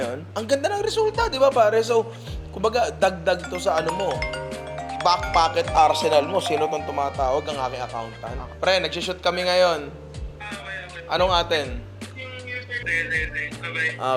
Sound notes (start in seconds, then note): 3.4 phone ringing; 12.5 speaking on the phone